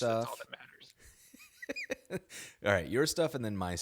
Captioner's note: chuckles